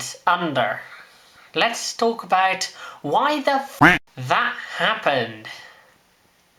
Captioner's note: quack